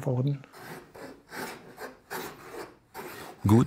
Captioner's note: planing noises